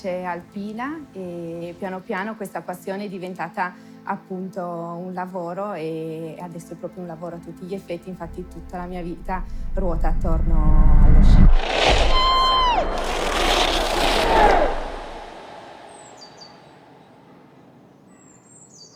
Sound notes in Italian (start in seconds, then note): 11.7 Marta urla; 16.0 cinguettio di uccelli